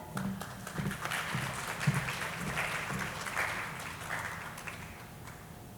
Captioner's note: audience applauding